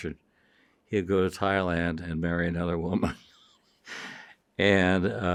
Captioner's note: chuckles